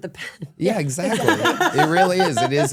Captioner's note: laughs